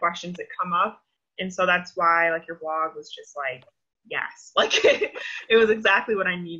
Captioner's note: laughs